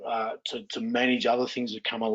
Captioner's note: laughing